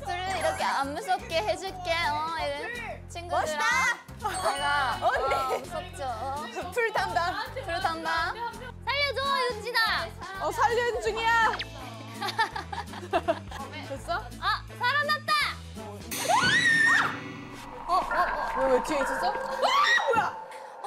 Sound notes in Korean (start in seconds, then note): 12.2 헤헤